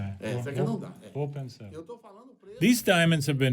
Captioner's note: speaking Portuguese